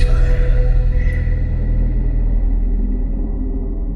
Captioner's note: spooky whisper